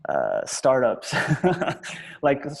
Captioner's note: laughs